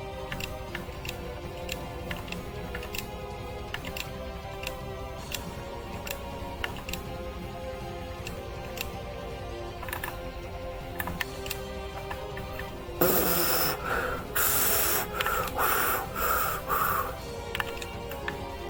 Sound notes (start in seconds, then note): 12.9 pffftf; 13.0 hooo